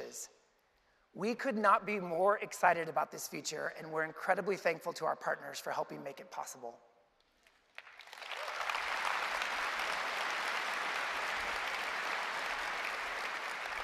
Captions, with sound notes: not be more excited about this feature, and we are incredibly thankful to our partners for helping make it possible. (Applause) Now, one of the things that